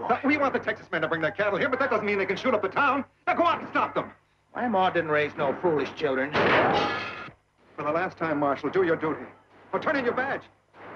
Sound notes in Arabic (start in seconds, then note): 6.3 انفجارات البندقية